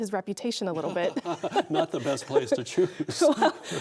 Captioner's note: laughing